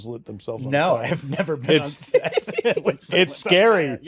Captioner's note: laughter